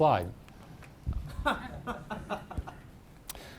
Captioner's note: chuckles